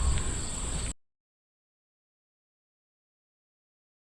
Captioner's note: muted audio